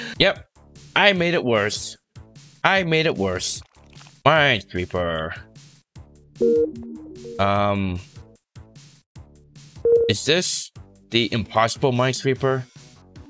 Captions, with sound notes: Yup. I made it worse. I made it worse. Minesweeper. [Minesweeper sound effect] Um. Is this.. the impossible Minesweeper?